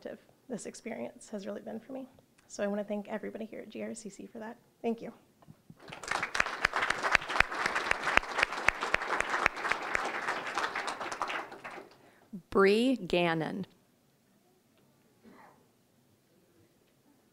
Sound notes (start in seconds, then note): 5.8 applause